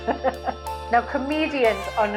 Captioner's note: laughs